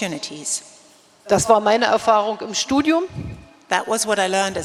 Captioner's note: speaking in German